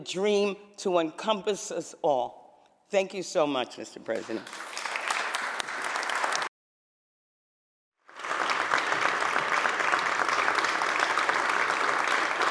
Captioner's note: applause